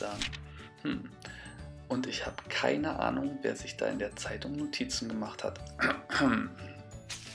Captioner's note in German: räusper